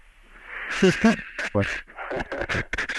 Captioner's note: laughs